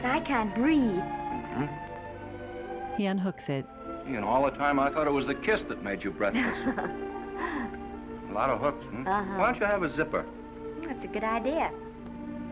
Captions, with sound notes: -I can't breathe. -Mm-hmm. You know, all the time I thought it was the kiss that made you breathless. -[Esther giggling] -A lot of hooks, hmm? -Uh-huh. -Why don't you have a zipper? That's a good idea.